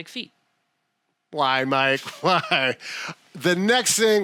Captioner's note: laughs